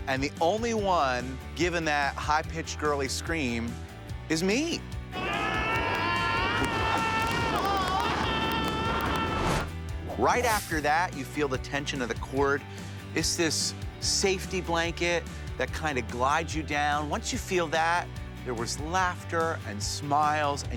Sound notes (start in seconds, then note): 5.1 both screaming